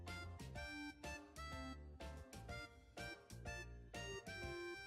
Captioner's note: none